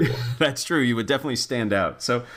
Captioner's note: laugh